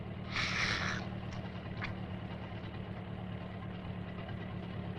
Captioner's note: Harris gasps deeply